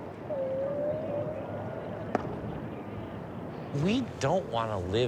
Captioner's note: whale calling